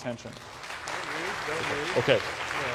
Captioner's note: applause